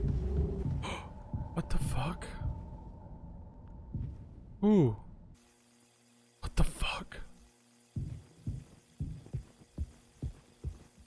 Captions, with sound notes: (gasps) What the fuck? Who? What the fuck? (Jimmy's footstepps thudding)